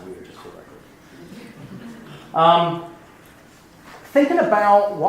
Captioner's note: laughing